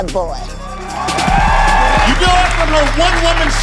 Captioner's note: cheers and applause